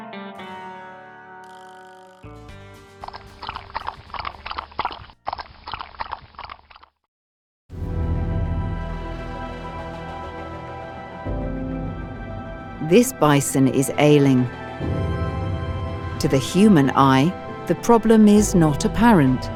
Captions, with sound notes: [bison drinking sound] This bison is ailing. To the human eye, the problem is not apparent.